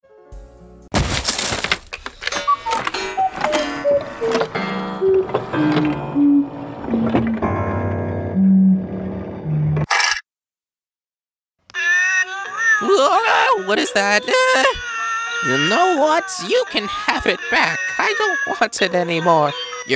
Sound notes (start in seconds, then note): 2.4 cuckoo clock slowing down; 11.7 cats meowing the "Happy Birthday" song